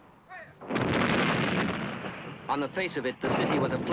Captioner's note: gun thuds